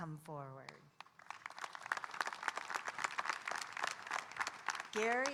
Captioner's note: audience applauding